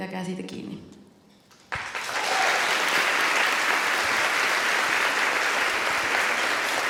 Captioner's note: applause and cheering